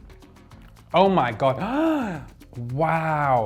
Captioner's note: gasps